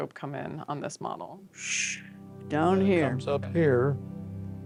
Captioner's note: shushing sound